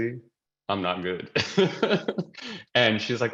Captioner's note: laughing